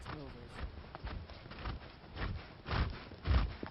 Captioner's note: horse huffing